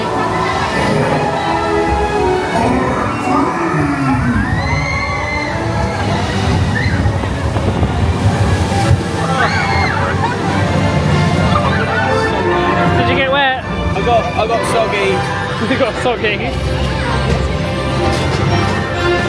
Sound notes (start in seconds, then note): 3.9 ice monster roars; 5.6 children scream; 9.4 epic music; 16.8 epic music